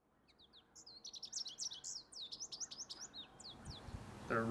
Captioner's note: birds chirping